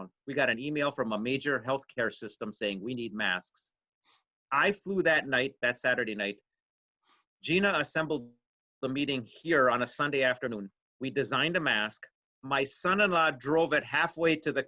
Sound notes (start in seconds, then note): none